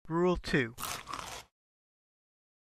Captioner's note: chomp